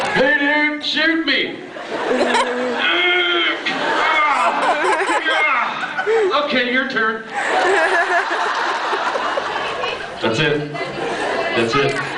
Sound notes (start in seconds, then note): 1.7 laughs; 2.3 groans of pain; 7.3 laughs